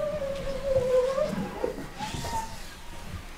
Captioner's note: squeaking